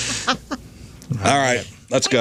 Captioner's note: laughter